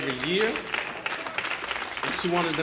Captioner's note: audience applauding